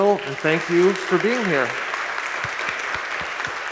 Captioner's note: audience applauding